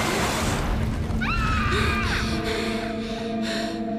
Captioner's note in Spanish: Grita